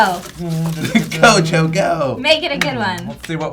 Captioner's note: girlish voice